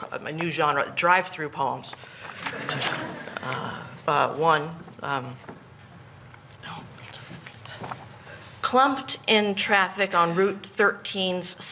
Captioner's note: laughter